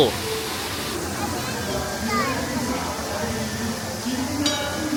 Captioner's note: water running